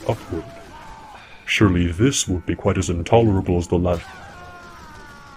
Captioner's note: Feathers sighs with disappointment